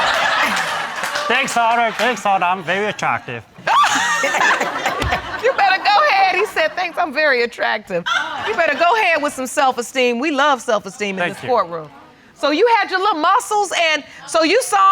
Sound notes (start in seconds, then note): 0.0 audience laughing; 3.6 laughing